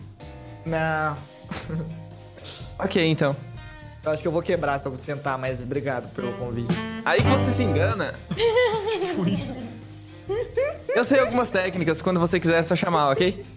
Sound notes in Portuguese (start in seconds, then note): 1.4 risos; 8.3 todos riem